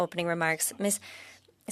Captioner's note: speaking French